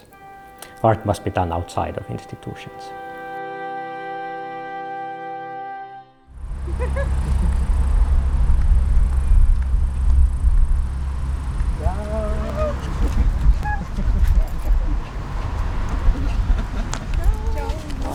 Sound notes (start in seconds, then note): 14.4 greeting noises